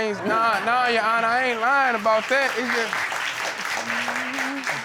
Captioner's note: audience applauding